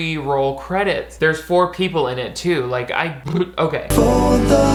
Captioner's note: blows raspberry